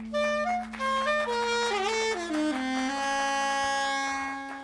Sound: applause

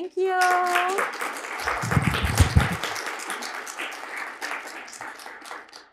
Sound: applause

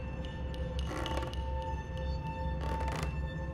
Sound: footsteps

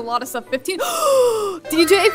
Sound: gasps

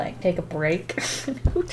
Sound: laughs

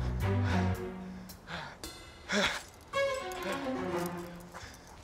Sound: deep breathing

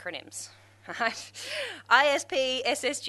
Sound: laughs

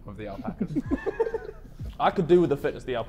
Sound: Sidemen laughing

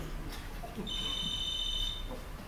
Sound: phone rings

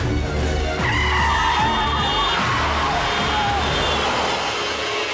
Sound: suspenseful music; tires squealing

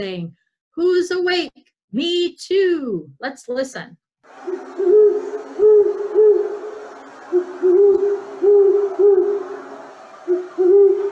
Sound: great horned owl hooting

